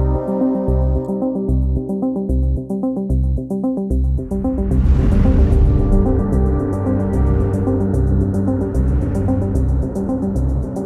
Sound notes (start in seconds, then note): 4.2 whoosh